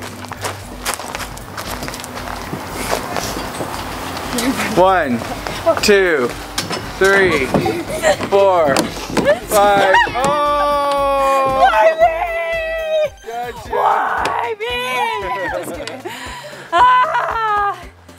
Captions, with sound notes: One, two, three, four, five! Oh! - Why me-- - He got you! - Why me! (laughing) Just kidding, ah!